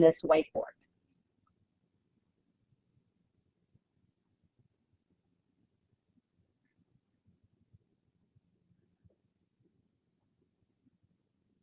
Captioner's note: silence